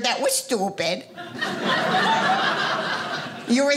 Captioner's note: audience laughing